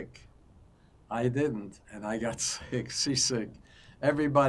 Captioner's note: laughing